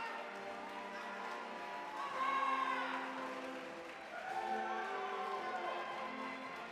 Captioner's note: audience cheering and applauding